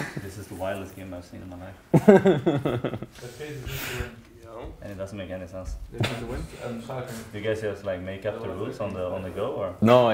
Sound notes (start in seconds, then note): 0.0 snickering; 1.9 laughs